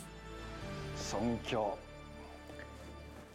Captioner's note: speaking Japanese